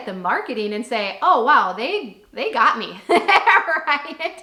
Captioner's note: laughs